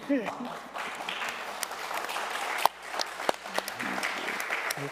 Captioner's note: audience applauding